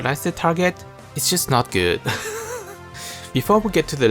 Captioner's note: chuckle